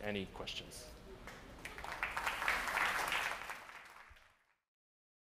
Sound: audience applauds

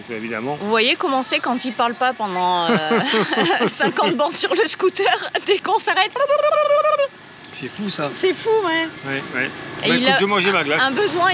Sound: laughs

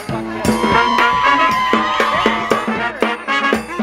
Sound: people cheering; smooth music

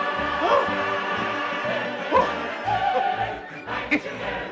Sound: panting

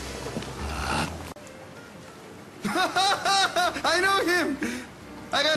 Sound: laughthing

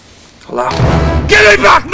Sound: groggily

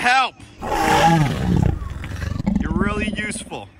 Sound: dinosaur roars

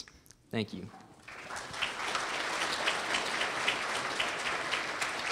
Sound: audience applauds

